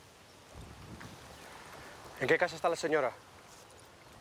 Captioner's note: speaking spanish